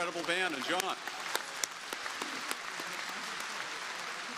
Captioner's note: crowd applauding